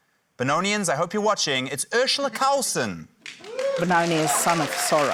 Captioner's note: applause